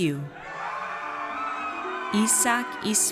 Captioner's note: audience cheers